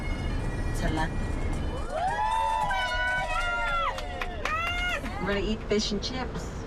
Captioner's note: cheers and applause